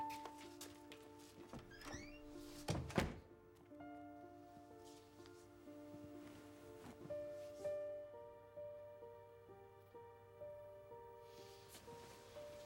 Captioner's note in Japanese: ドアの開閉音